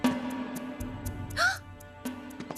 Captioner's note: gasps